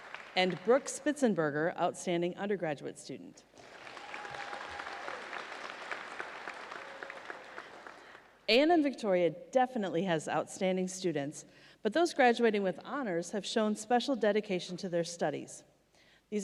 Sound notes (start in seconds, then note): 3.5 audience applauds